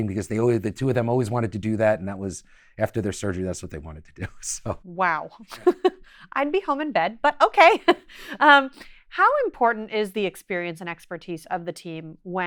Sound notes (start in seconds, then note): 4.1 chuckles; 4.2 laughs